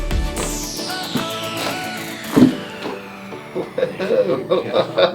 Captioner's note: cracking; patient laughing